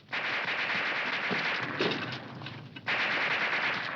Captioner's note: guns firing